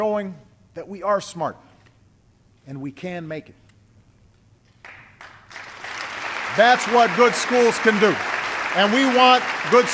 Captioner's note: applause